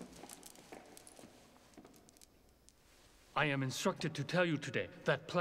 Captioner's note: none